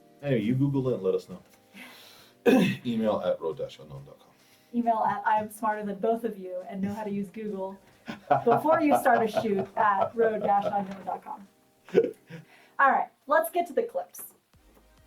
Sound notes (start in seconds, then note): 2.4 coughs; 8.0 laughs